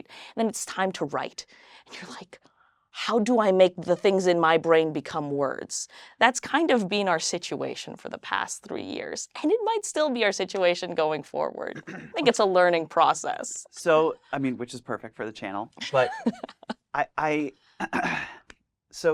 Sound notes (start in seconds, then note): 15.8 laughs